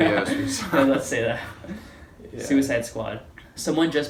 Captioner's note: laughing